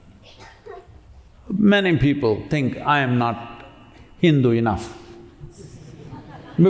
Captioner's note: laughter